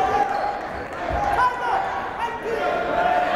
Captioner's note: yelling